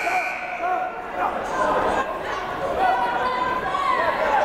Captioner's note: buzzer blaring